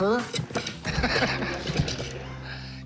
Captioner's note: laughs